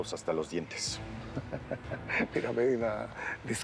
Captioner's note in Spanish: risas